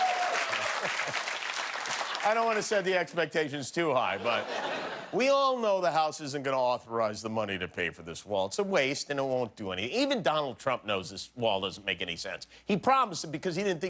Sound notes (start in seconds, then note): 1.8 cheers and applause